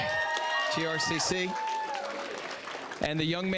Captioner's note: audience cheering